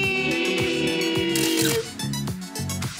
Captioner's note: camera shutter clicks